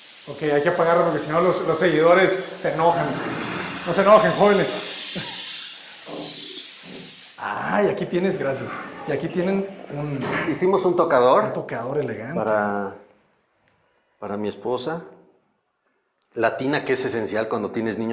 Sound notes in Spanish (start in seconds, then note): 5.4 Ruido de agua